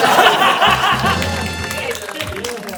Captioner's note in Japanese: 笑い声; ファンファーレ・拍手